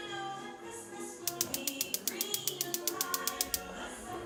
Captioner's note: igniter clicking